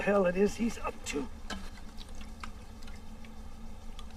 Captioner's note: slurps